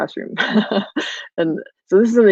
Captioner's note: laughing